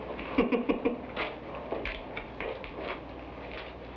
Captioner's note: man laughs